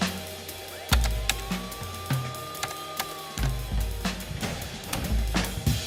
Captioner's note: bright music; keyboard clattering; bright music